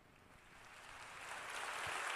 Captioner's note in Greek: Χειροκρότημα